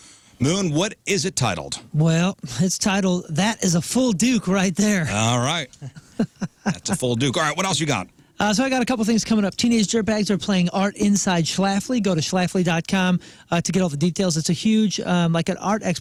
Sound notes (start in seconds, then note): 5.0 laughing